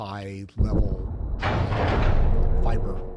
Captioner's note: gun fires